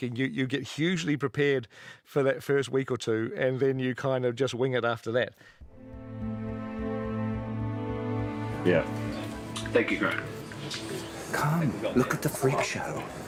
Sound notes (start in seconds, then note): none